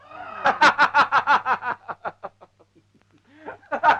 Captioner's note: laughing